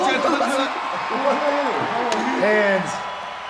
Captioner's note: crowd cheering